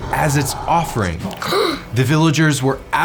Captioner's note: girl gasps